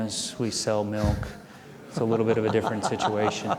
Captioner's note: audience chuckling